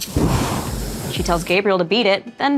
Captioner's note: fire rumbles